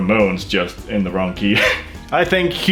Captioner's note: laughs